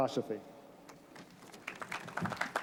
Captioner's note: applause